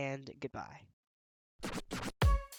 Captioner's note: record scratches; upbeat music playing